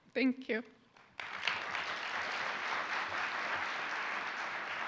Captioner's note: applauding audience